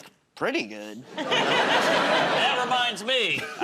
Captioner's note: laughter